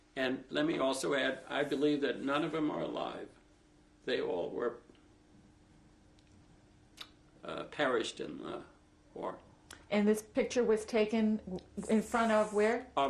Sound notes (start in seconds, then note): 5.5 pauses for 3 seconds